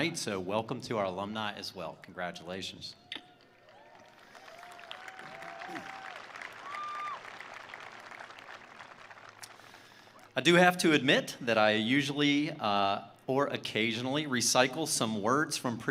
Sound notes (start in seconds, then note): 3.2 attendees cheering; 3.3 attendees applauding